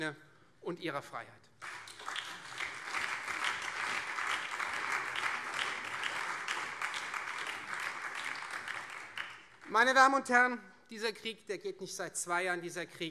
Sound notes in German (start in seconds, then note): 1.5 Beifall Freie Demokraten, SPD, BÜNDNIS 90/DIE GRÜNEN und vereinzelt CDU